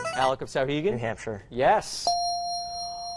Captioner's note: dinging